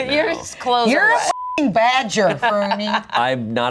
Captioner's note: beep